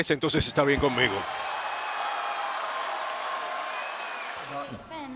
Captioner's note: applause